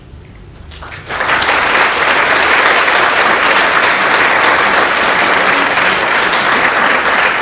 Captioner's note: applause